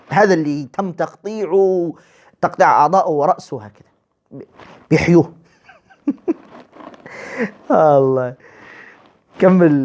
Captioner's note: laughter